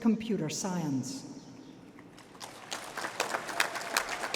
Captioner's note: applause